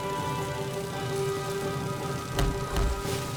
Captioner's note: none